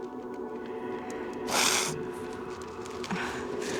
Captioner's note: sniffs